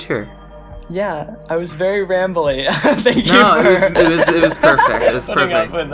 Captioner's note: laughs